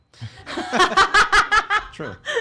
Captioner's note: laughing